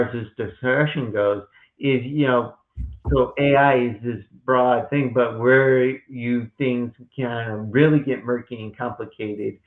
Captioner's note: knock of water bottle hitting desk